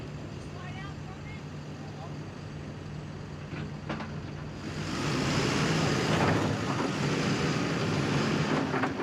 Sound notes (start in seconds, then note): 4.1 machinery clanking